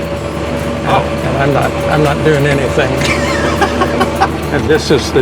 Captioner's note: laughing